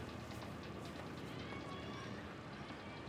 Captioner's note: child shouting